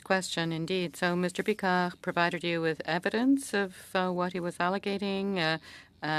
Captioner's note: speaking French